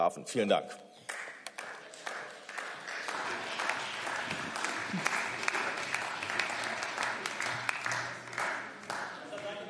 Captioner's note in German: Beifall